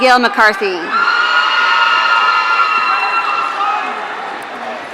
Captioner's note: audience cheering